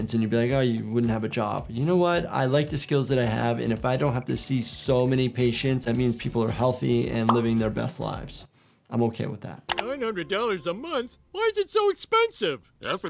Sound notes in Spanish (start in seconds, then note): none